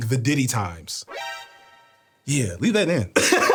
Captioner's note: alarm chiming